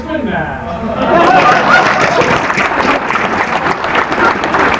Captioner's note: applause